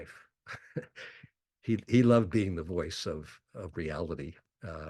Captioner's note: chuckles